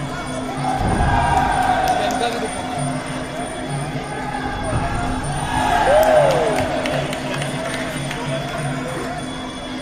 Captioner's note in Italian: Applauso